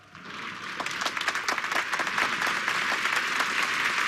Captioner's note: applause